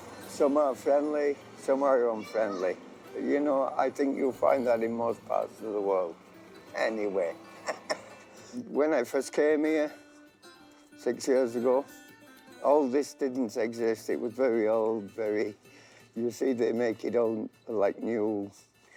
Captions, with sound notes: Some are friendly, some are unfriendly, you know? I think you'll find that in most of the world anyway. (laughing) When I first came here six years ago, all this didn't exist. It was very old, very, you see they make it all like new.